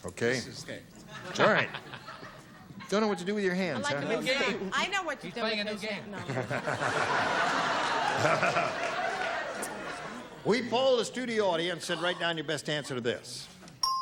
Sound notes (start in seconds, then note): 8.1 laughter